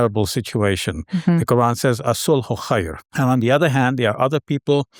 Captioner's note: speaking Arabic